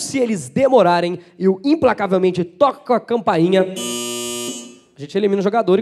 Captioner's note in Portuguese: campainha